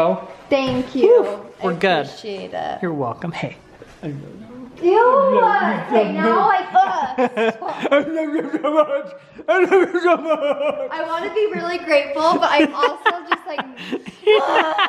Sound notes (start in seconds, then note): 8.0 making silly noises; 14.7 laughs